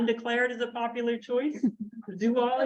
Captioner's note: chuckling